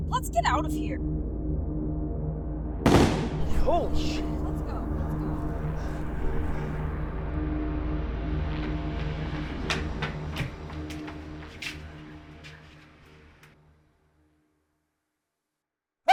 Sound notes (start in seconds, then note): 2.8 gunshot; 9.7 footsteps; 11.6 silence